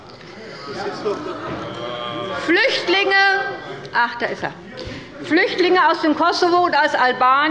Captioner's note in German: Zurufe